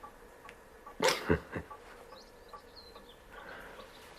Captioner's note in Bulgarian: смее се